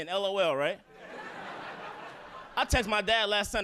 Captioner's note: audience laughing